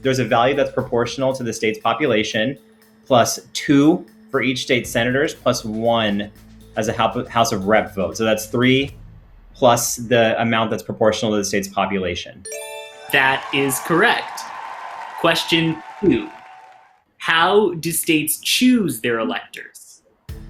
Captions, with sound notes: there's a value that's proportional to the state's population plus two for each state senators plus one as a house of rep vote. So that's three plus the amount that's proportional to the state's population. (chime rings) (crowd cheers) - That is correct. Question two, how do states choose their electors?